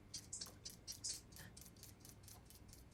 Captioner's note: peeler gliding